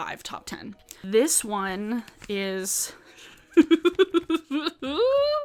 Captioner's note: laughs